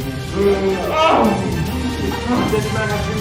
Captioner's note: group gasps